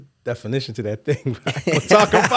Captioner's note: laughing